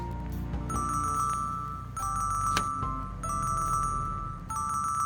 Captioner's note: phone rings